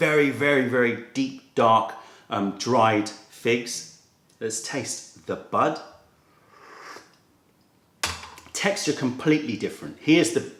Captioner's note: sips tea